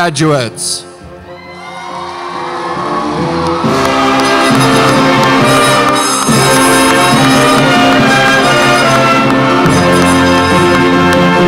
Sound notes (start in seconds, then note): 1.2 audience cheers; 5.1 orchestra music